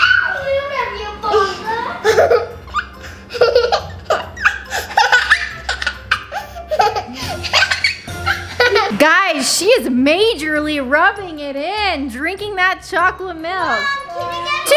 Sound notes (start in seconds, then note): 1.3 giggles